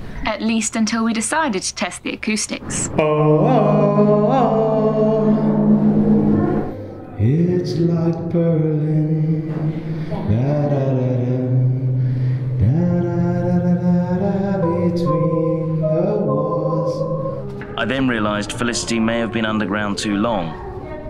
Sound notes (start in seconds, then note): 3.6 Tarzan impressions; 7.0 singing